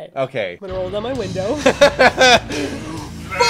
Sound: laughs

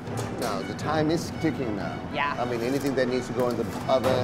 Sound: utensils clanking

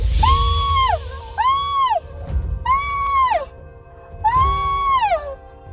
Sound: grandma screaming

